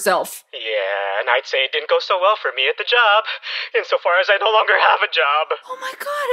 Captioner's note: on phone